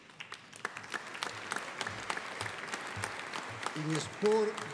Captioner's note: audience applauding